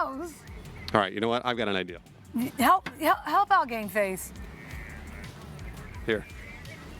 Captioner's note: laughter